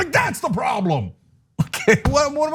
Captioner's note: laugh